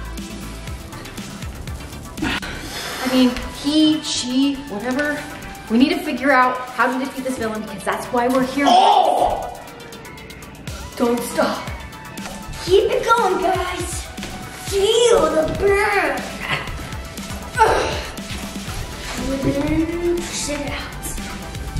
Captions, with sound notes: (Techno music) - I mean he, she, whatever. We need to figure out how to defeat this villain 'cause that's why we're here. (grunting) - Don't stop. Keep it goin guys. Feel the burn. Pull it in, push it out.